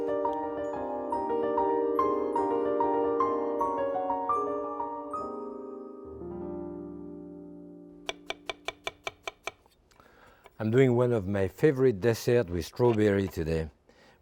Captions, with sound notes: (gentle music) (knife tapping) I am doing one of my favorite dessert with strawberry today,